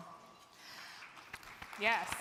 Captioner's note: crowd clapping